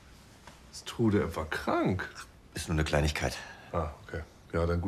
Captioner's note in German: schelmisch